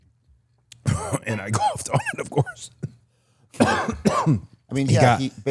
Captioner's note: coughs